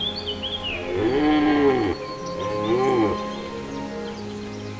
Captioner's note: deer roaring